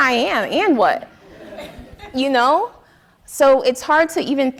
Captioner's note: audience laughing